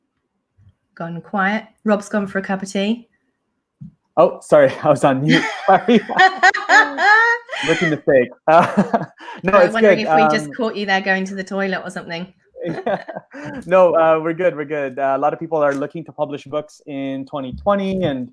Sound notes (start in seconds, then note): 5.2 both laughing; 8.1 mumbles